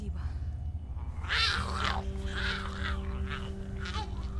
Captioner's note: Giree grumbles